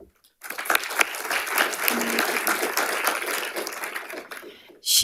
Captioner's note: audience applauding